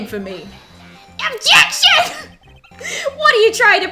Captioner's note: laughs